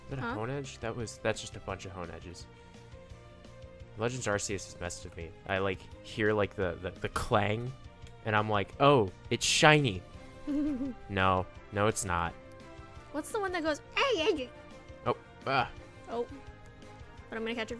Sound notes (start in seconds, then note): 10.4 giggles